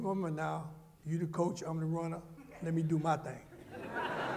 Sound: laughter

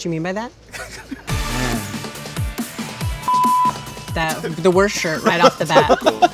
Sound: laugh

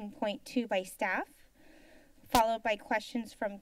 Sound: silence

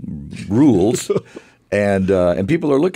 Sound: laughter

